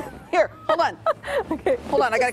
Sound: laughter

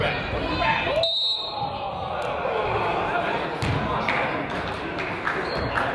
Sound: whistle blows; crowd groans; person applauds

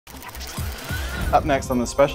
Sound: graphic whirring

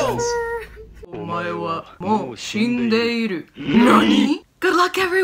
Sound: speaks in Japanese

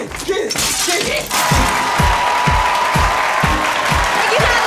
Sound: cheers and applause

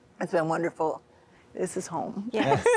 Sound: laughing

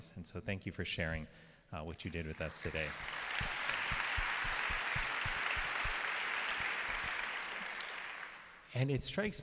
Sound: applause

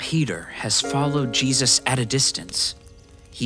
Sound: fire crackles

